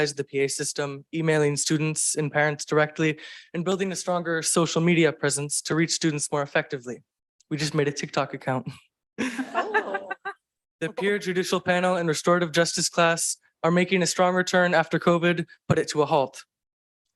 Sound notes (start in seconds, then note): 9.2 board members and attendees chuckle